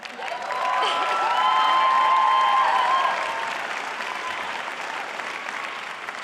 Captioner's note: cheering and applause